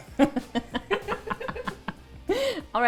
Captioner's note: laughing